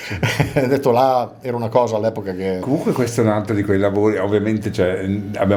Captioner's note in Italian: risate